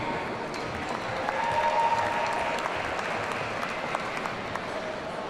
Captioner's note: audience cheering